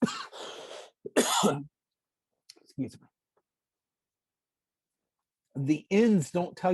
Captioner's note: coughing